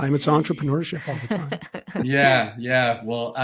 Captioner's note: laughing